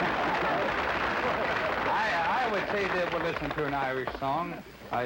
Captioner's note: applause & laughter